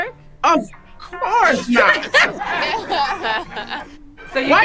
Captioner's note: group laughing